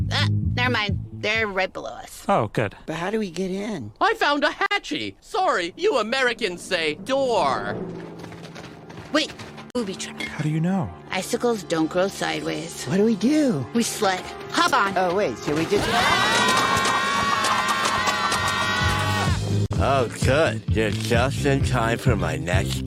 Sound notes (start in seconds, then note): 15.8 screaming; 17.9 dance music playing